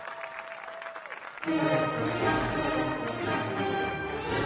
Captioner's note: cheers and applause